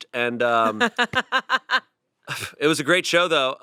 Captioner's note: laughs